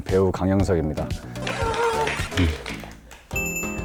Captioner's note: round of applause